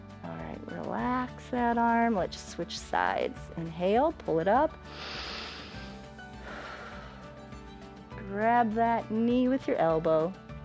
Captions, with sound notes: All right, relax that arm. Let's just switch sides. Inhale, pull it up. [inhales and exhales] Grab that knee with your elbow.